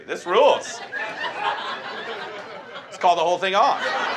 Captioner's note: audience laughs